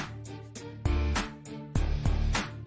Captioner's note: none